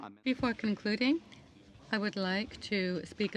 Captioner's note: speaking in French